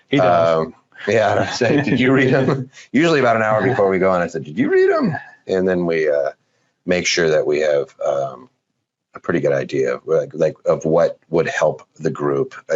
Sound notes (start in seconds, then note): 1.0 laughing